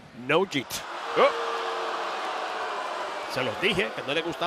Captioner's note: applause